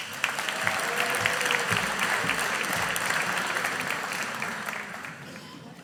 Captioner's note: audience applauding